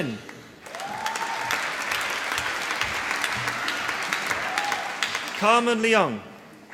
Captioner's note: applause